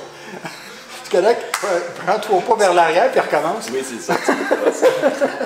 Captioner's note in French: rire